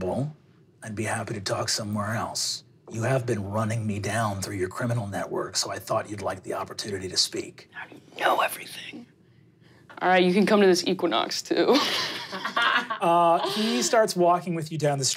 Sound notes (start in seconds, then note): 11.8 laughing